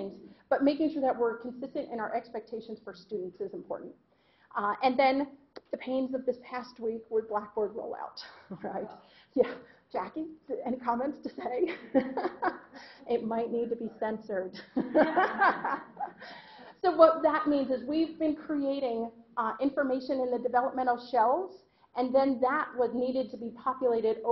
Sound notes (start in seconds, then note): 11.7 laughing; 14.6 laughter